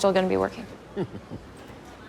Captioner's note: chuckles